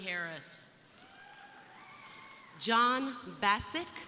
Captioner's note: crowd applauding